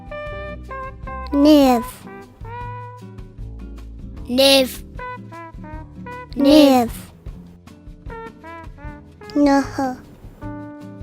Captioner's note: kids speaking Cheyenne numbers